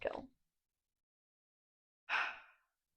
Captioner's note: sigh